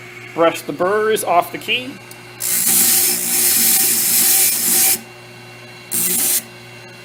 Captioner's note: scraping noise